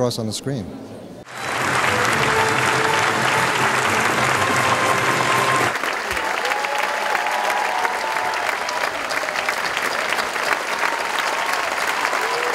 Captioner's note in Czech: cheering